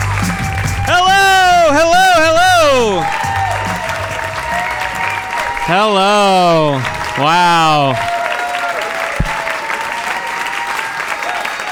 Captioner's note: audience cheering